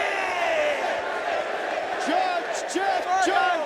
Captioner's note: crowd chants "Sid"